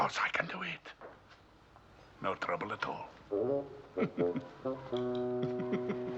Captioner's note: chuckles